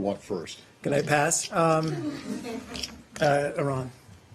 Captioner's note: laughter